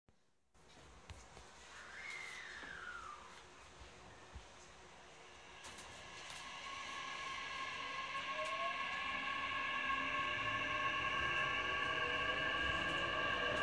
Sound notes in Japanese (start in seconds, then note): 0.0 加速音